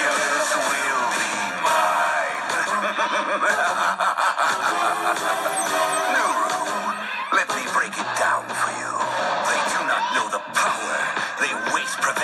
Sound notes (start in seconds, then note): 2.8 evil laughs